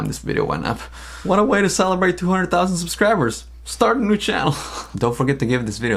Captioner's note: laughs